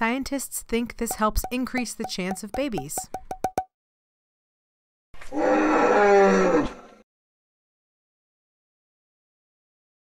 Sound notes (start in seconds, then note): 2.9 popping; 5.2 dinosaur roar